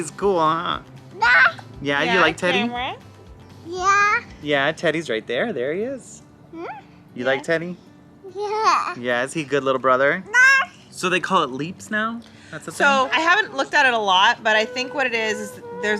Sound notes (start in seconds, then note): 10.5 shouts